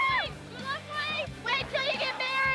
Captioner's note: shouting